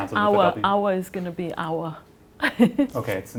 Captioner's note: non-english speech